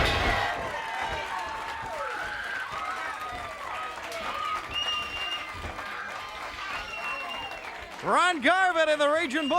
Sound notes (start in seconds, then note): 0.0 bell ringing; 1.6 crowd cheering